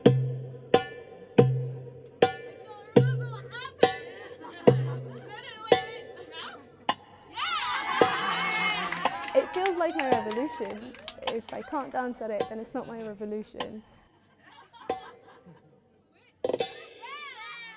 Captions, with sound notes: I can’t remember what happens, *laughter* no no wait Now? Yeah! *cheering* It feels like my revolution if I can’t dance at it, then it’s not my revolution.